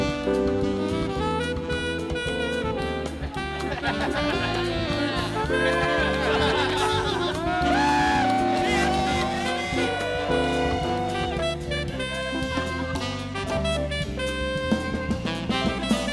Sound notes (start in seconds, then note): 3.2 students laughing; 7.6 students cheering